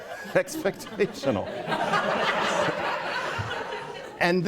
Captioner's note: laughter